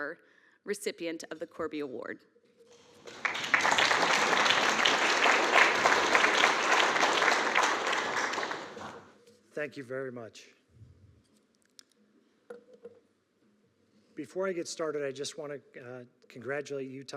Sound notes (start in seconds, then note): 2.8 audience clapping